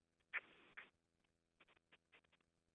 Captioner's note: silence